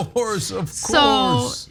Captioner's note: laugh